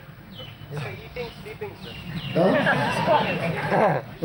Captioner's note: laughter